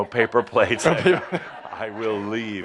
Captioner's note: laughter